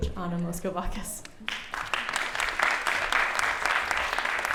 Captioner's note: applause